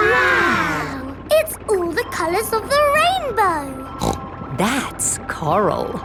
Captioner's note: snorts